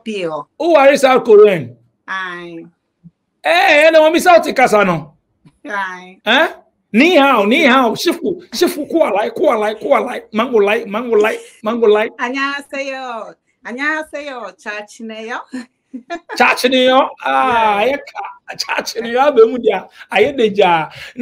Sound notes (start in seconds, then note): 11.7 speaks Korean Language